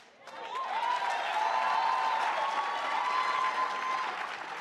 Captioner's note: audience applauds